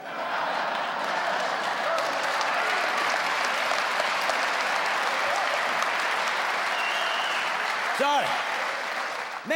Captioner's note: audience laughing and applauding; audience continues laughing and applauding